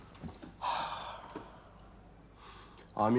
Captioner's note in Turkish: Nefes sesi